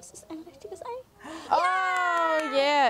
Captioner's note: they cheer